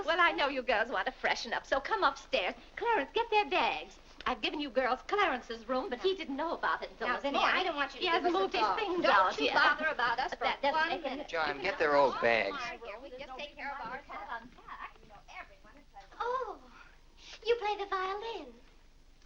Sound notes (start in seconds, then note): 13.4 women chattering